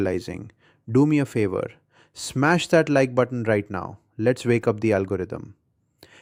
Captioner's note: excited